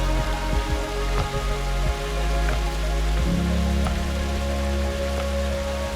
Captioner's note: water rushing